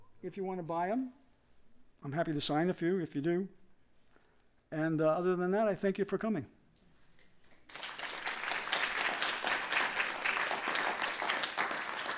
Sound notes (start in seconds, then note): 7.6 applause